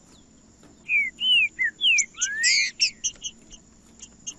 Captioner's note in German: trinca ferro cantando